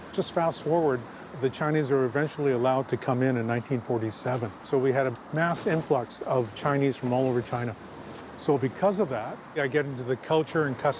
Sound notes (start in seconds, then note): none